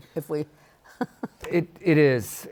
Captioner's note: chuckles